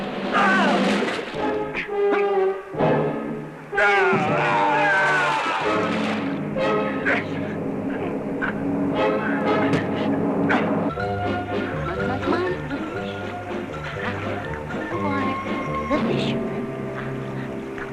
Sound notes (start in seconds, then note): 0.2 yelling; 7.8 grunting; 10.9 whimsical music